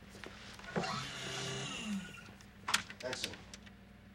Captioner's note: machine whirring